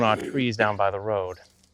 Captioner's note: birds chirp